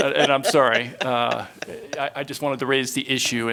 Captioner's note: laughter